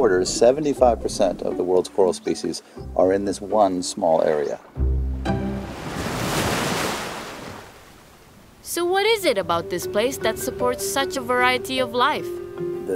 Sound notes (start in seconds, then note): 4.8 upbeat music; 5.3 wave crashing